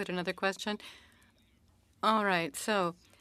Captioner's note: speaking French